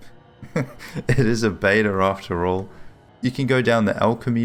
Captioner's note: laughs